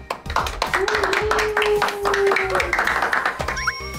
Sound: applause

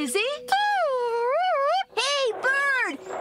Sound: whistles

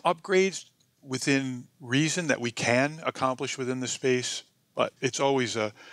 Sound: none

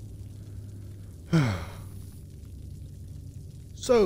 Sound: sigh

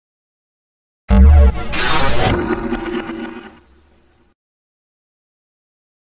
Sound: sound of morphing

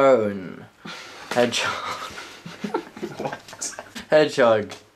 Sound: giggling

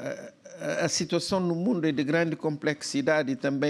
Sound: speaking portuguese

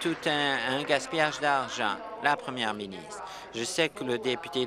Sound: applause

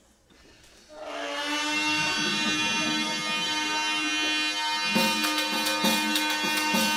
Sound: bagpipes playing; audience laughter; instrumental music

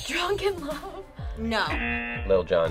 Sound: audio buzzes

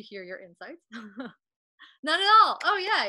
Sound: chuckling

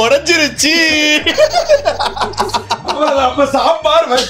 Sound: laughs

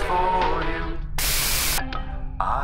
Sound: white noise

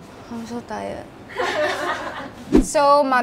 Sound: laughs

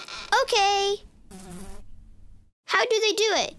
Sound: fly buzzes

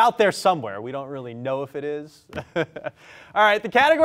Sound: laughs

